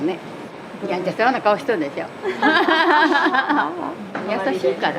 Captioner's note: laughs